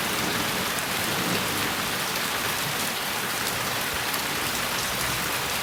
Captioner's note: none